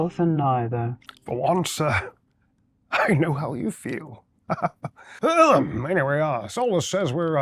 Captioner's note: chuckles